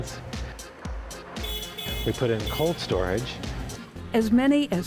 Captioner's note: fork lift honking